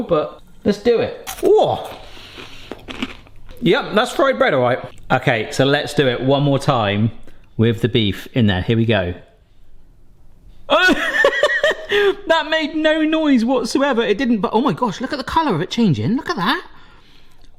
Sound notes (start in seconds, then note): 1.8 crunching; 10.7 laughing